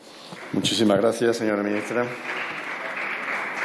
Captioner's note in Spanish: Aplausos